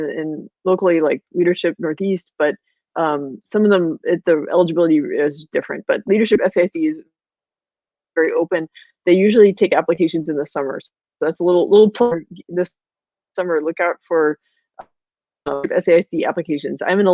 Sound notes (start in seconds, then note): 12.3 electronic noise